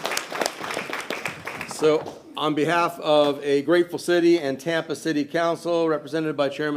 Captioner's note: applause